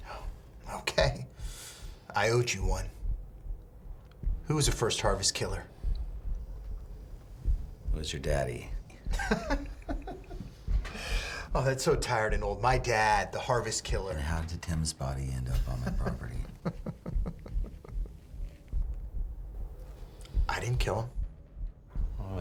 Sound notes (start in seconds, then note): 9.1 Billy laughs; 15.5 Billy laughs